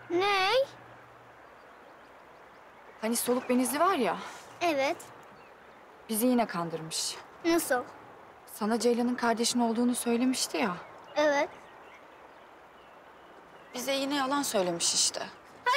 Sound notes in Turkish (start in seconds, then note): none